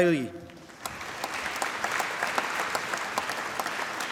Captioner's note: applause